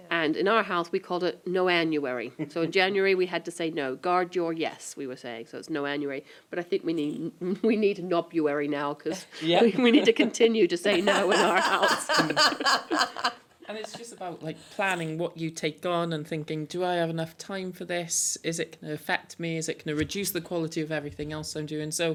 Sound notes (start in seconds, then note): 10.9 laughter